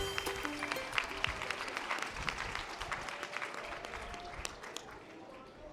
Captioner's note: audience applause